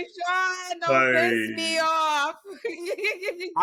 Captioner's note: laughs